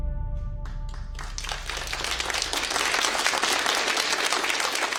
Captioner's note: audience applauding